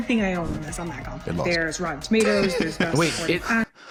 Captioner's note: laughs